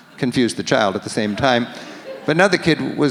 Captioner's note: audience laughs